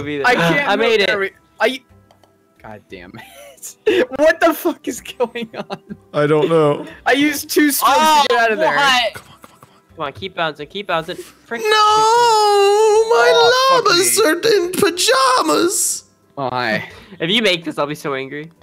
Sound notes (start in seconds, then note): 5.3 laughing; 9.2 whispering